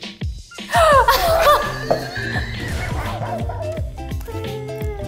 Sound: gasps and laughs

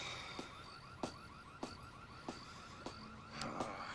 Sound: <i> alarm blaring nearby</i>; <i> sighs</i>

